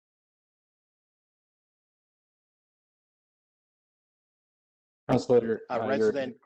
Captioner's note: audio drops